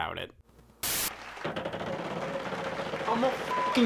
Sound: wheel turning; beep

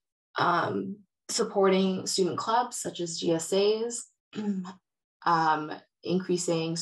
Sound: clears throat

